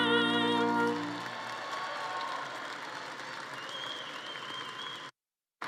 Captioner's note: audience applauding